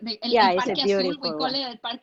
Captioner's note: speaking foreign language